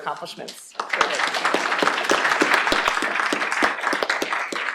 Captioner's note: applause